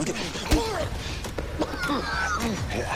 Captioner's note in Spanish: Quejido